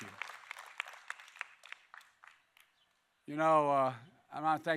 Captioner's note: applause